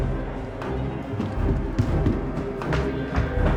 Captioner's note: tense music; footsteps thumping; tense music